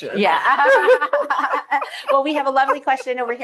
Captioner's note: all laughing